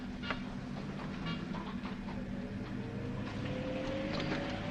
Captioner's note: car engine rumbling